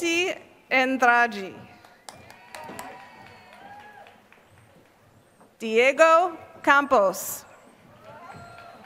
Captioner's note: applause; applause